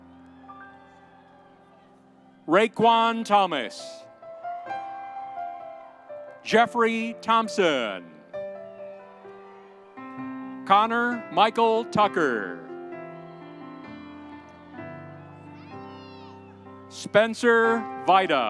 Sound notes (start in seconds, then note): 0.0 audience cheering; 4.8 audience cheering; 8.4 audience applauding; 12.0 audience cheering